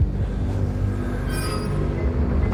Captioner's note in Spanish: pitido